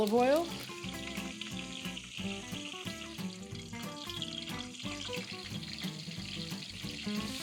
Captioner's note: keftedes sizzling in the pan